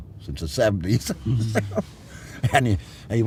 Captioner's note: laughter